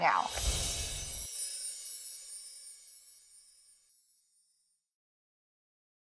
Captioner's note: wind chime music; air whooshes